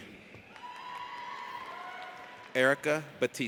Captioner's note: audience cheers